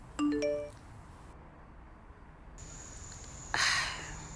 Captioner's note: phone notification beeps